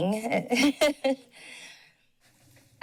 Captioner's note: laughs